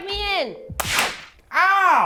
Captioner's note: slap